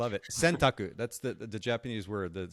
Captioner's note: speaking in foreign language